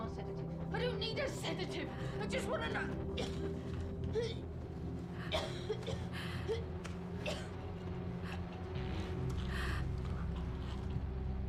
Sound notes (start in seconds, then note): 5.1 coughing